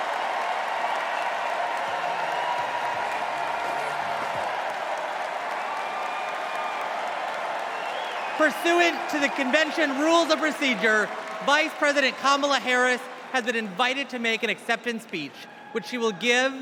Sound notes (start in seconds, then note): 1.0 cheers and applause